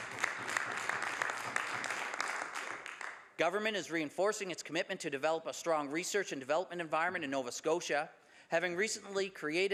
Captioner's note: some Applause